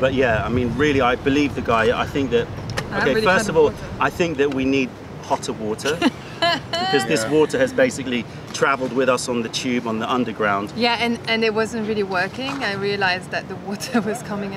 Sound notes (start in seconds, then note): 5.8 laughter